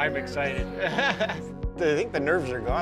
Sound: chuckling

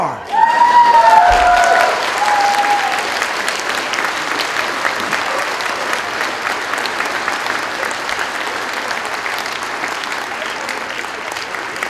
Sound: cheering, applause

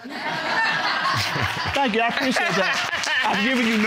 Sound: audience laughs; chuckles

